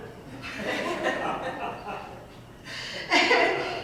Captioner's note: audience laughing